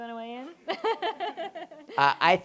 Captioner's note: laughter